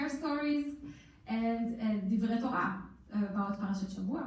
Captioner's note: in foreign language